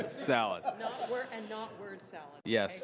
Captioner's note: laughter